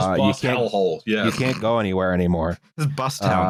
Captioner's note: snorts